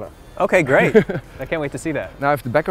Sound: laughs

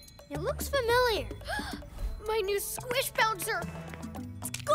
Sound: gasps

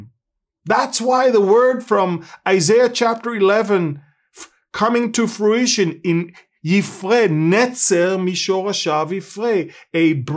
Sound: Hebrew Words

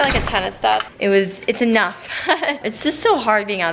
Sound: laughs

